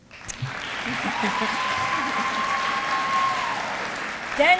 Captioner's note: applause